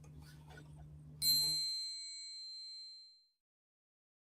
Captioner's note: bell dings